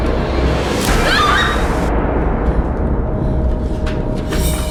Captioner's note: women scream